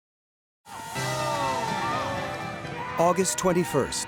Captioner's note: people cheering